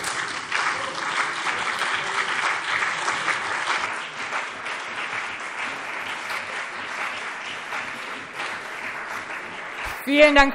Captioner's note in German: Beifall CDU und BÜNDNIS 90/DIE GRÜNEN